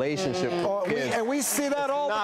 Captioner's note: audience clapping